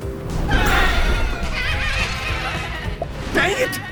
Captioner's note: explosion, sad baas